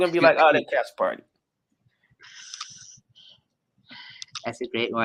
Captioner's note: chuckles